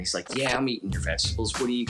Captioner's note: none